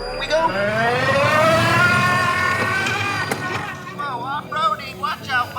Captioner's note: engine revving